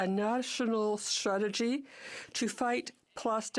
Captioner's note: speaking in French